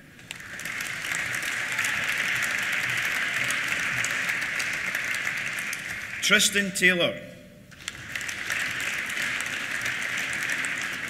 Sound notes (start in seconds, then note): 0.1 applause; 0.4 cheers; 7.7 applause